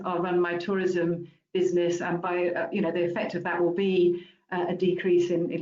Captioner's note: none